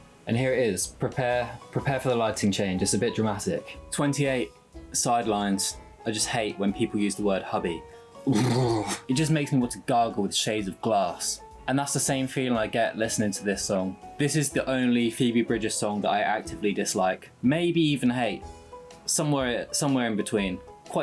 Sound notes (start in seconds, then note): 8.2 noises of utter disgust